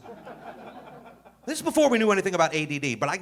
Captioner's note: audience laughing